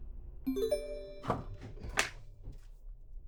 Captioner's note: notification sound